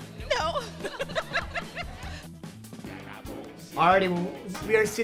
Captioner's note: laughs